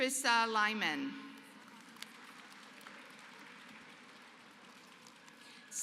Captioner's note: applause